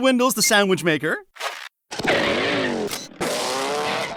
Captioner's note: whirring